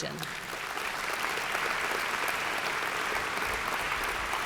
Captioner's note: audience applauds